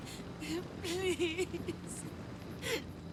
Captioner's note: sobbing